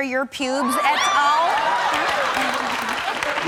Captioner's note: audience cheering